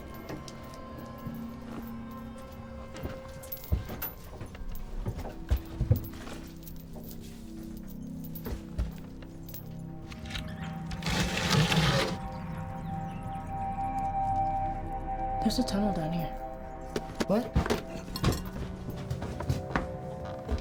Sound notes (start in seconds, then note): 0.2 sinister music; 10.8 door scrapes